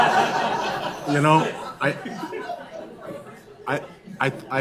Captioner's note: laughs